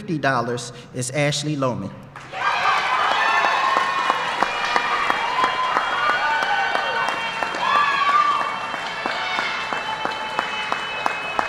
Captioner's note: applause